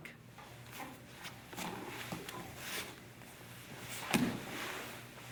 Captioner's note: soft shuffling